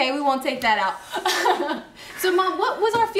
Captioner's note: laughing